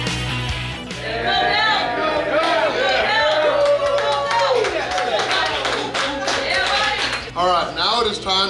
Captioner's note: cheering & Clapping